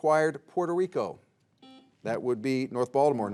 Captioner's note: buzzer beeps